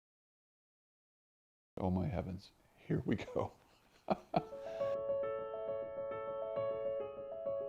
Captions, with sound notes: - Oh, my heavens, here we go. (laughs) (piano music)